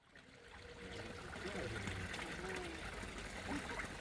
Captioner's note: sound of running water